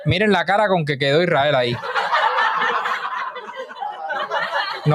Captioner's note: laughs